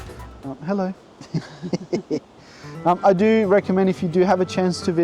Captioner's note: chuckles